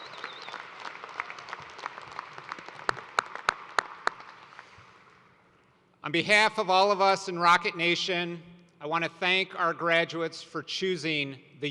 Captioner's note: cheers and applause